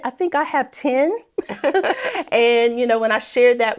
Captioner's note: laughing